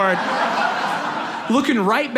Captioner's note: audience laughs